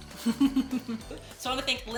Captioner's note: laughing